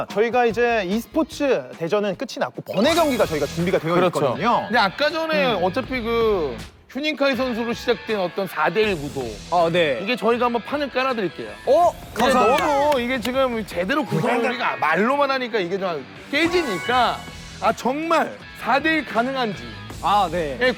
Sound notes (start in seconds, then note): 12.2 big applause